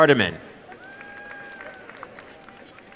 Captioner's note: applause